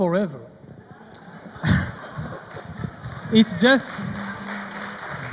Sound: audience laughs

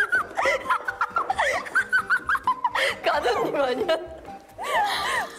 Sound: laughing

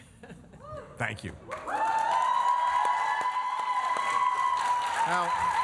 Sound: applause

